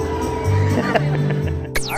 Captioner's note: laughing